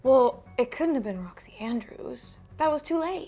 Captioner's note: none